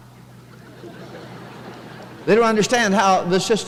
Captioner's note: chuckling